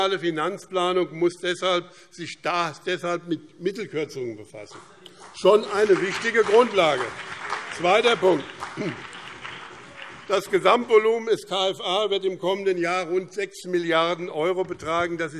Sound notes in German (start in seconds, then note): 6.9 Beifall BÜNDNIS 90/DIE GRÜNEN und CDU